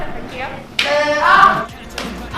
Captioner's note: slap!